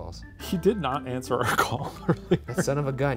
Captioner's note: laughing